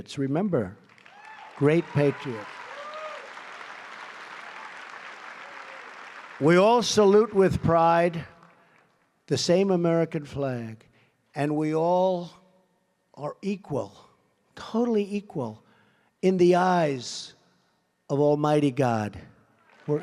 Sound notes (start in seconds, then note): 3.0 applause